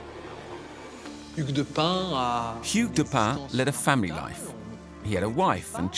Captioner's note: speaking French